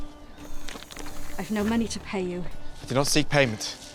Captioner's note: sighs